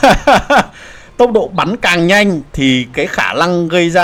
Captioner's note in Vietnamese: tiếng cười